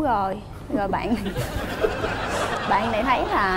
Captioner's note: laughing